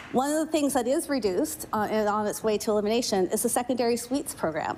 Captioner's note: applause